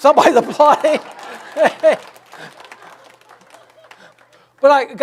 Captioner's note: audience laughs and applauds; laughs